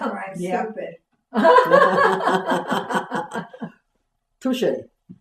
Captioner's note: laughter